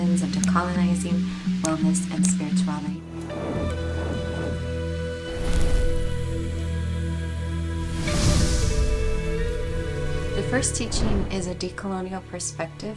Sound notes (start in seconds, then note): 3.2 text whooshing; 3.3 gentle music